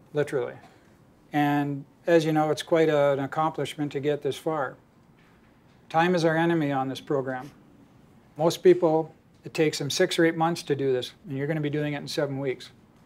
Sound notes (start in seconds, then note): none